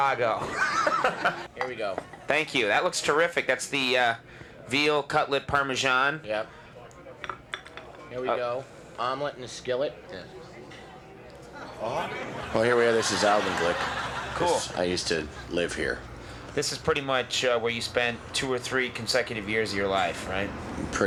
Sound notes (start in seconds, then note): 0.4 laughs; 11.5 audience laughs